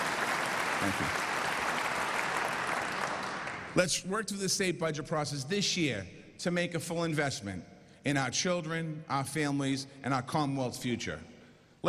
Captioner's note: applause